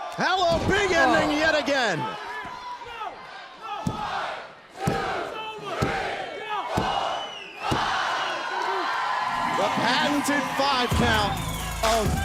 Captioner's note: crowd cheering